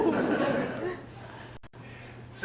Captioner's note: audience laughs